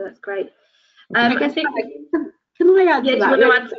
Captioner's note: indistinct overlapping chatter